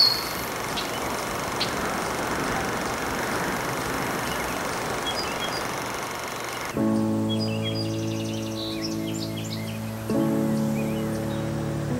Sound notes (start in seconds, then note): 0.0 birds chirping; 0.0 wind blowing